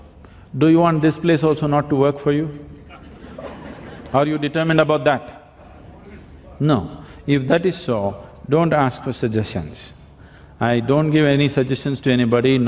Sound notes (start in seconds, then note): 2.9 laughter